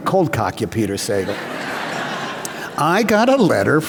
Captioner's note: laughter